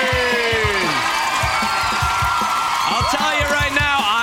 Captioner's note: cheering